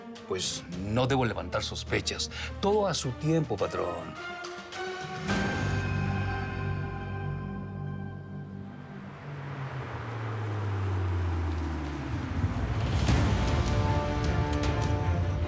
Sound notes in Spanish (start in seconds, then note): 13.1 sonido del motor